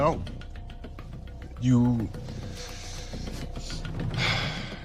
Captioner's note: sighs